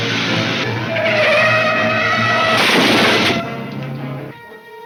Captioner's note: exciting orchestra music; crashing; tires squealing